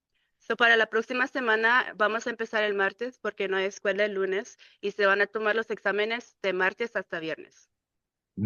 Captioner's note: speaking in Spanish